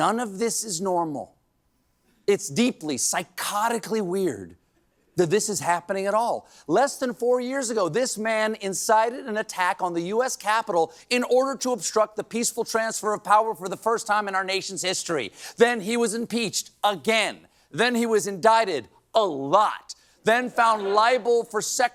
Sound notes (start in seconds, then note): none